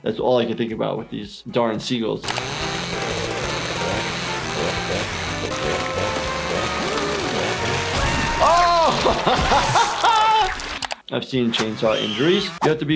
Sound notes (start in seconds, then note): 2.2 chainsaws buzzing; 9.7 laughing